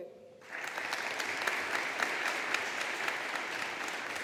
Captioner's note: audience applauding